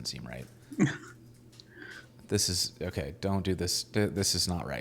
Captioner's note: laughing